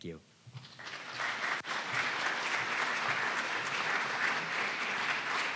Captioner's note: audience applauding